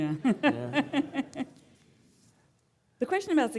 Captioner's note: laughing; audience laughing